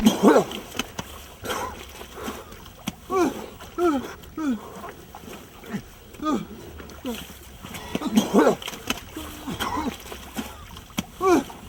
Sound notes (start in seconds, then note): 0.0 Alex coughing; 3.0 Alex gasps